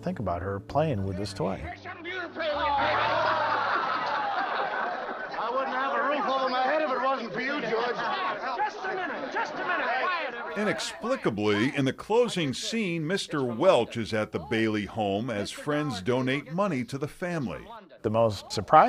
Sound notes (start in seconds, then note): 2.6 actors laughing